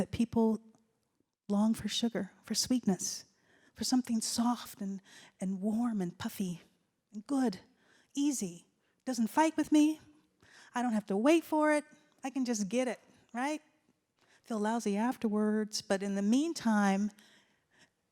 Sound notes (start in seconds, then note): none